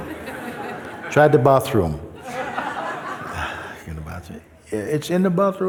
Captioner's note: laughter